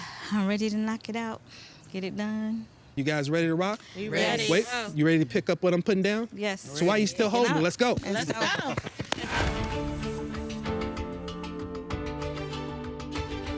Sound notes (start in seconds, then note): 9.3 all applauding; 9.4 gentle music